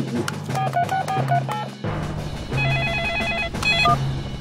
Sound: phone ringing; phone beeping

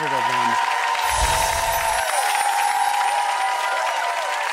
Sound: audience applause

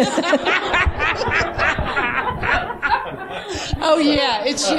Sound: laughing

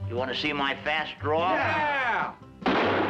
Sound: gunshot

